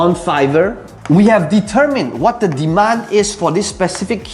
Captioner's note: tapping marker